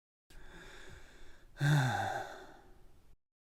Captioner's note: sigh